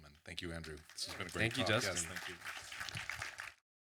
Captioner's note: audience applause